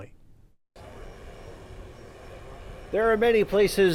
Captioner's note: motor running